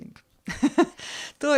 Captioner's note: laugh